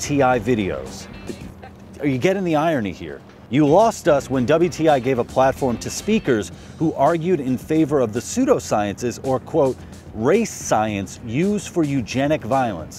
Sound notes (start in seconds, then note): none